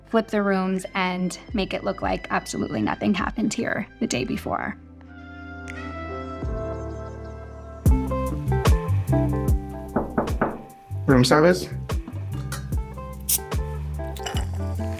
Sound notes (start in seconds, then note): 4.9 upbeat music; 9.9 door knocking; 14.0 soft drink hissing; 14.8 upbeat music